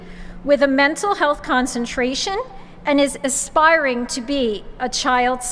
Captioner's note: none